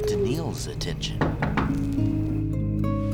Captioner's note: knocking; somber music